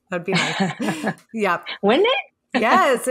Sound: laughs

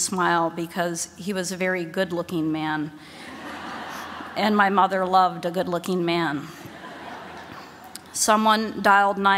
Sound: laughter

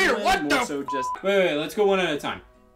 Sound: beep

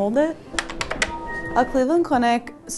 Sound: keyboard clicking

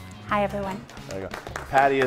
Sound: chefs clapping

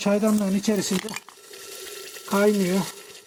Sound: the sound of tar boiling rustling

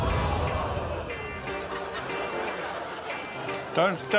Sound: audience gasps

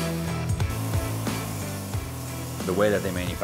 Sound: saw grinding

